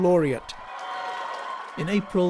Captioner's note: cheering